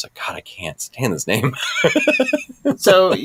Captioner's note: laughs